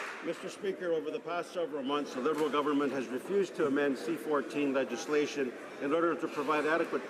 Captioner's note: applause